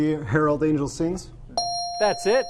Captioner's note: ding